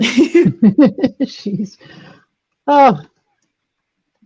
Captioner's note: laughs